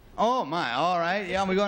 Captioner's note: buzz